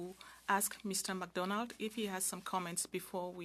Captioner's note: speaking French